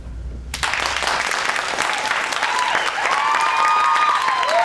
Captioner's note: applause and cheers